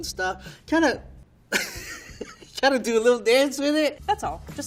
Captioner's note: laughing